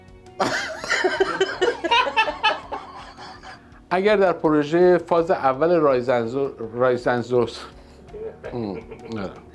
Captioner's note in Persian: خنده